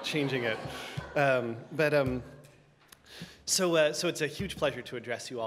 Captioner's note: audience laughter